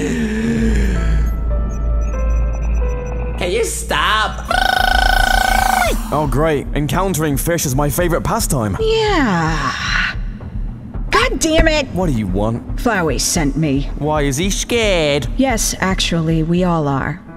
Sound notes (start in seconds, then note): 4.4 realistic sound effect